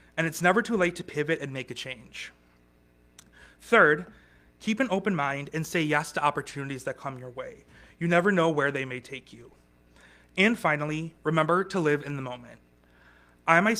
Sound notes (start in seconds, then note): none